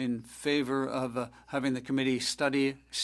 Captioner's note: speaking French